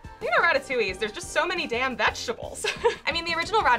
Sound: laughs

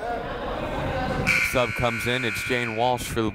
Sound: whistle blowing; buzzer sounding

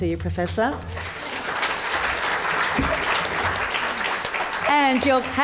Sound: audience applause

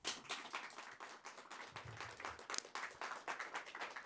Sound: audience applauding

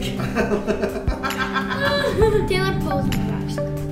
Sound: laughing

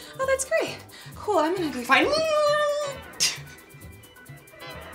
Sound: panics; laughing

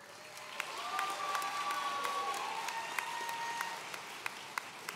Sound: audience cheering

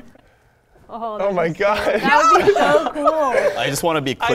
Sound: laughs

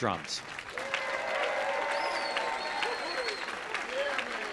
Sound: audience applauding

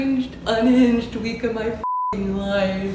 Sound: beep

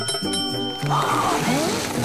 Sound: gasps

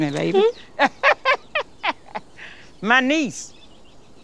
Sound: laughs

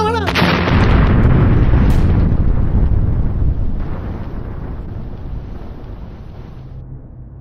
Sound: bomb explodes

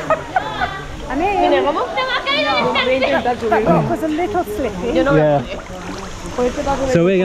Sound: laughter

